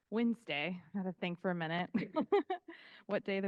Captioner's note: laughing